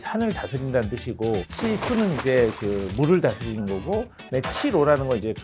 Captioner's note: sound of flowing water